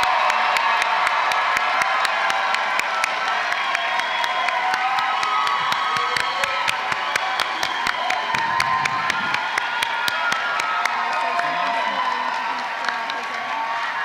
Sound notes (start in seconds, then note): 0.0 applause